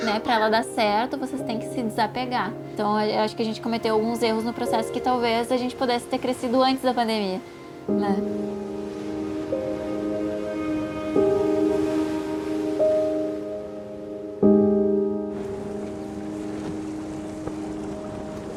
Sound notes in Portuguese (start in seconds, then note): 8.2 Ondas quebram